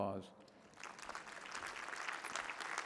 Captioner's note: applause